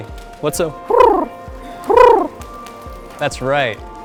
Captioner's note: making trilling sound